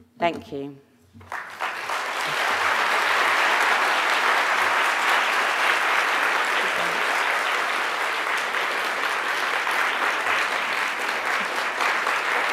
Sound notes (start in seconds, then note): 1.3 audience applauding; 6.7 faintly speaking